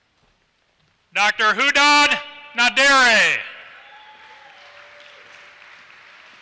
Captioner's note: applause